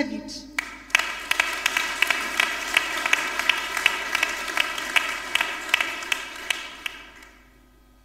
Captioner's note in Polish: oklaski